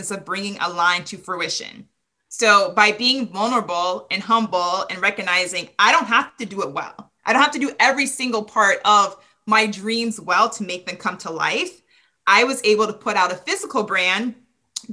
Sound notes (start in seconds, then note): none